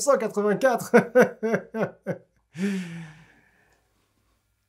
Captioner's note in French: rire gêné